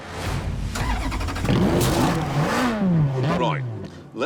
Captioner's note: engine starts and revs